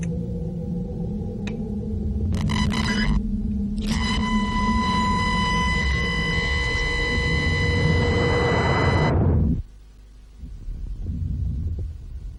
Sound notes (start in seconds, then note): 2.2 loud static